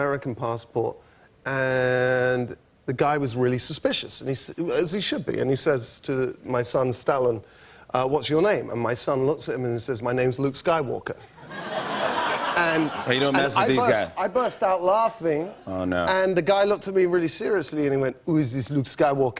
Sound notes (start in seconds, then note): 11.2 laughter